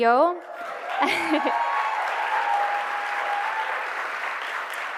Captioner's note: cheers and applause